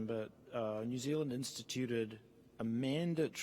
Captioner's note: none